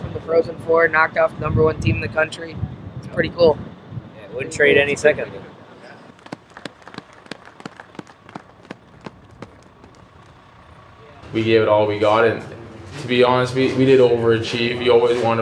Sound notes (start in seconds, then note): 6.1 clapping